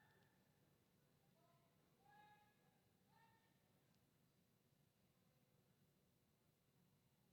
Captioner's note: none